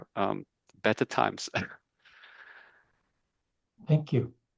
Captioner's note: chuckles